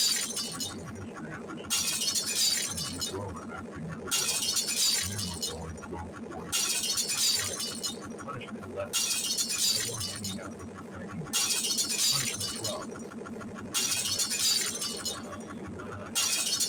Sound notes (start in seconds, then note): 7.3 shouts